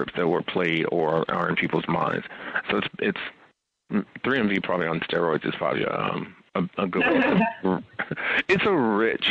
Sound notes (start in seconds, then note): 6.7 laughs